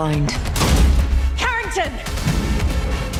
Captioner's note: yelling